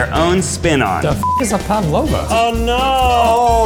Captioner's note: beep